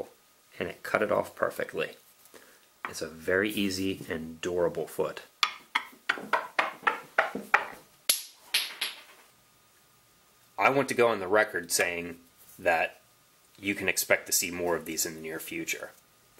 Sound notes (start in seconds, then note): 8.2 cracks against ground